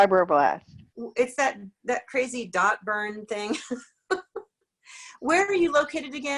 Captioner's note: laughs